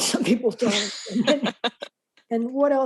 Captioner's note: laughter